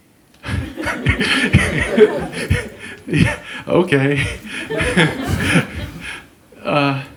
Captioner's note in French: rire